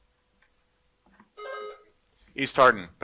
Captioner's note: buzzer buzzing